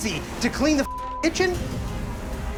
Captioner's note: beep